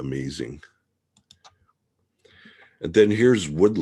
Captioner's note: mouse clicking